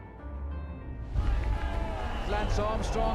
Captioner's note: cheering